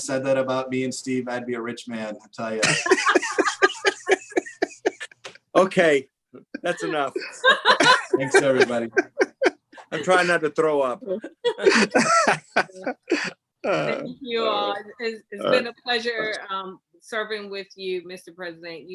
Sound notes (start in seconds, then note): 2.6 laughs; 11.1 laughs